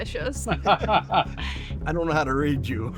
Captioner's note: laughter